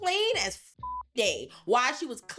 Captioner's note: beep